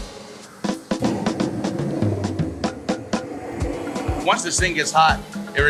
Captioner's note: flames whooshing